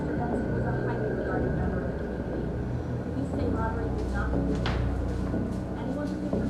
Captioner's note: door thuds; news anchor chattering